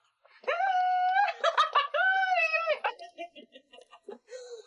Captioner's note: shouting and laughing